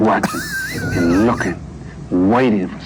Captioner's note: laughs